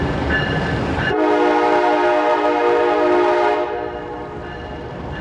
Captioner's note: train rattling; train horn blowing